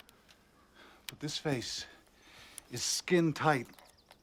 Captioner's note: none